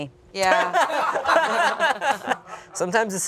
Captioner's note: everyone laughs